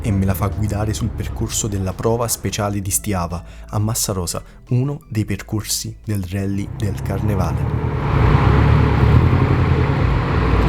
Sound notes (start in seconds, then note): 7.9 boxer rumble